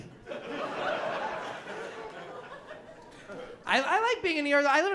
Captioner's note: laughter